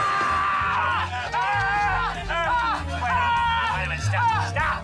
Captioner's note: both screaming